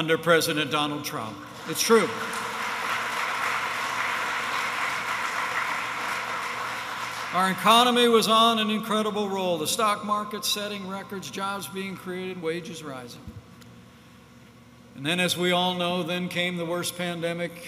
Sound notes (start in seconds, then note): 1.4 applause